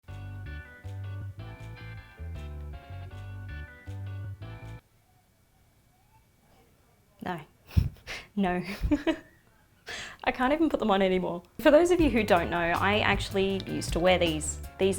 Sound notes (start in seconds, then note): 0.0 mellow music; 8.4 giggles